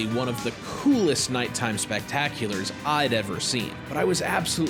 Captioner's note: none